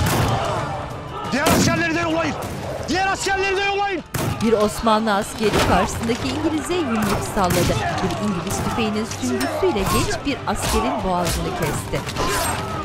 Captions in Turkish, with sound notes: Diğer askerleri de yollayın! Diğer askerleri de yollayın! (Dövüş sesleri) (Silah sesleri)